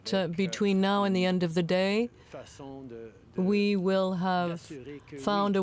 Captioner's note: speaking French